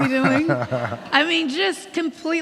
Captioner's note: laughing